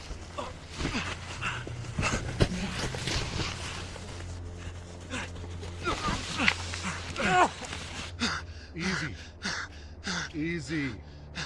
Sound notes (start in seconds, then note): 0.0 footsteps crunching; 0.1 person grunting; 5.0 runner grunting